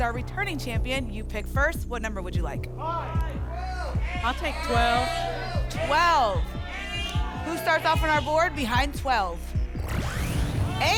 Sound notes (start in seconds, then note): 2.8 audience shouting numbers